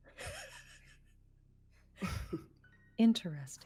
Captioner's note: laughs